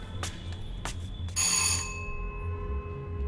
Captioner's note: bell Rings